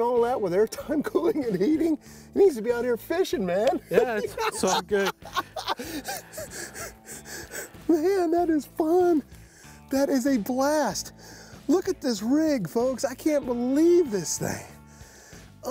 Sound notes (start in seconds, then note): 3.8 laughs